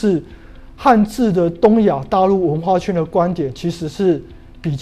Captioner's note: chinese words